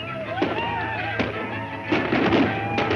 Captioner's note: chanting; gunshots